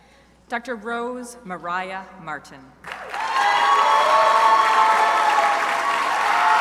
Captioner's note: crowd applauding